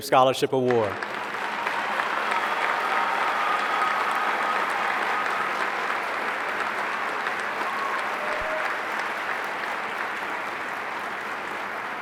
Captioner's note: applause